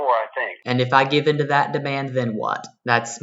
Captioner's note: on phone